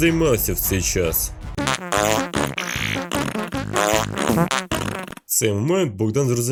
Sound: continues to fart

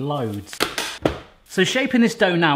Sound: lid clicking

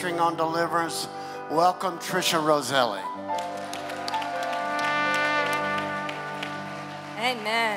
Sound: applause

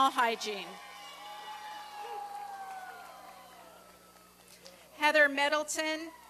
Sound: applause and cheering

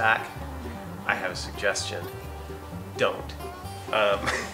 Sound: laughs

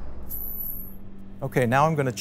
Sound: gentle, metallic whooshing sound

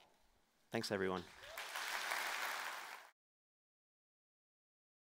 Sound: applause

